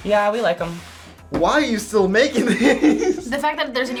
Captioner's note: laughs